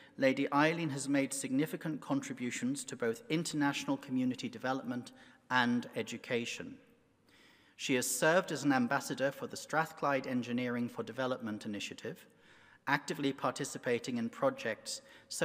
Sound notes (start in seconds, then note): none